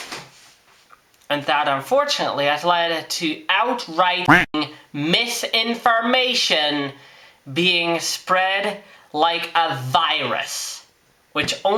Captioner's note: quack